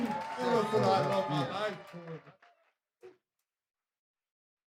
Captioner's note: crowd cheers